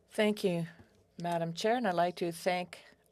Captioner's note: speaking French